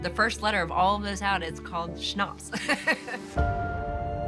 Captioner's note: laughs